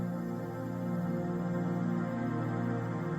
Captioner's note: crickets chirping